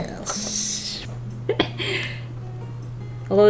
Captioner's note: chuckles